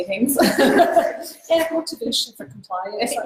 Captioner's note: laughs